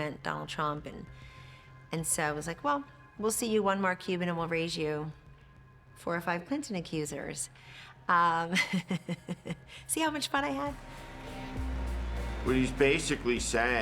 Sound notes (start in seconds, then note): 8.5 laughs; 10.4 upbeat music